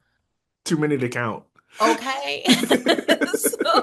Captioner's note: giggle